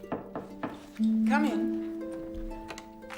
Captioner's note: knocking on door